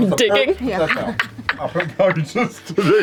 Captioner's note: laughs